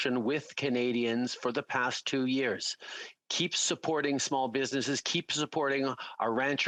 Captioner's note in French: voix de l'interprète